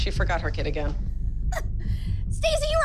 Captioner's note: laughs